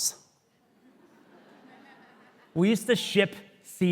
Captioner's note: audience laughing